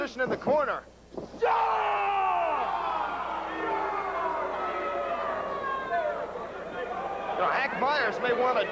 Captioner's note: crowd cheering